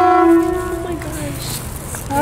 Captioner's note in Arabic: تزمير السيارة